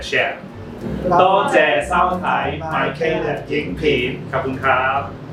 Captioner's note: in Cantonese